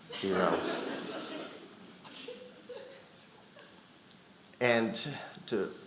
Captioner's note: audience laughing